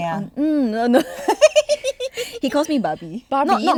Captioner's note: girls giggles